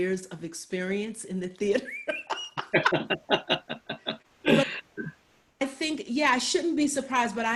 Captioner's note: laughs